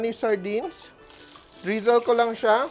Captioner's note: sizzles